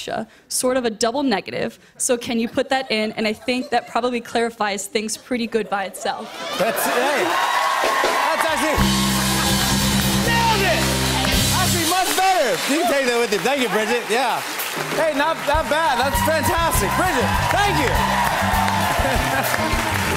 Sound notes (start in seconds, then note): 7.3 cheers and applause; 17.7 cheers and applause